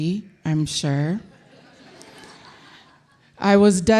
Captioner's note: audience laughing